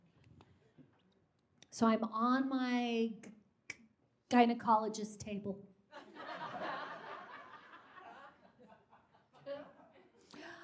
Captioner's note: audience laughs